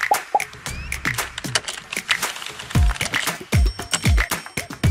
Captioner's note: icon popping; percussive music; keyboard typing